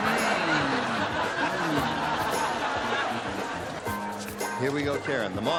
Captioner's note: laughter